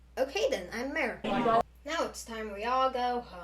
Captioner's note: human talking intensifies